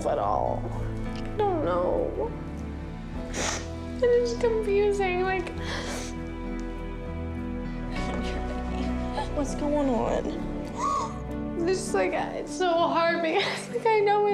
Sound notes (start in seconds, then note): 3.2 sniffles; 10.7 sobs